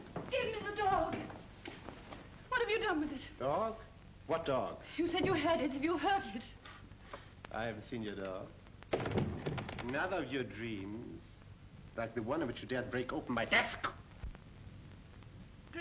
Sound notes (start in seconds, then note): 9.0 doors close